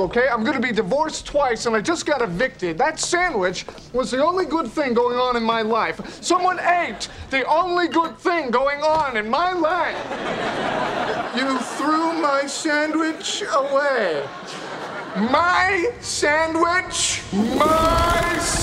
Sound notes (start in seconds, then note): 10.1 audience laughing